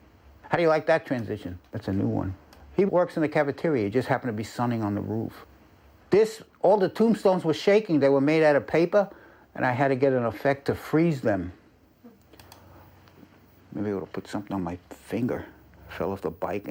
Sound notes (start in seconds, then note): none